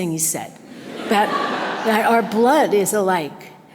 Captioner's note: audience laughter